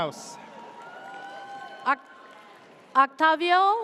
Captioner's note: audience cheers